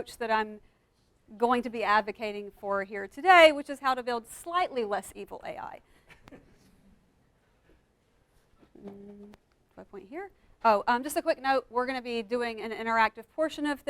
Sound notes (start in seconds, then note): 6.1 participant laughs